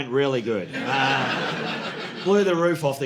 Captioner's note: audience laughing